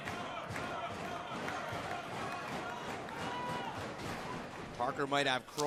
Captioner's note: fans chanting